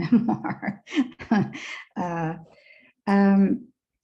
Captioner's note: laughs